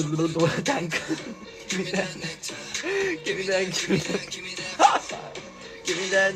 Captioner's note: wheezing